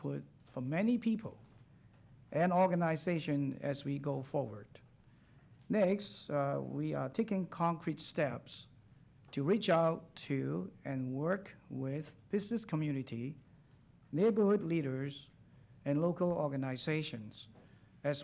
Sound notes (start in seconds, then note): none